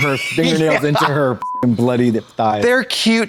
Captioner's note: beep